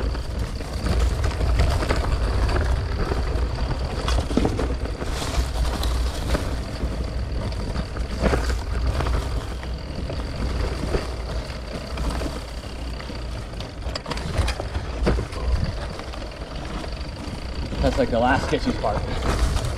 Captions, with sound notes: (bike whirring) That's like the last sketchy spot.